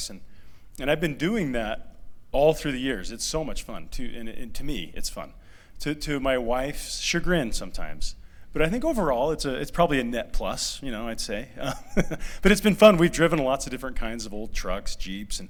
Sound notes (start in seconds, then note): 11.6 laughter